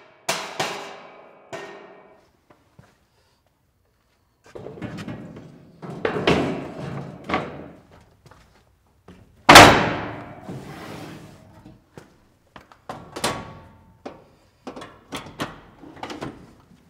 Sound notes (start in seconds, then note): 4.6 wood thudding; 9.1 metal clanging